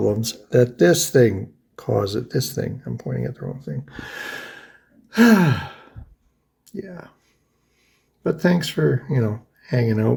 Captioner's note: sighs